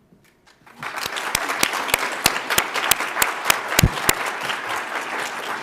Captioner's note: audience applauds